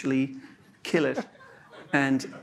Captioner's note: laughter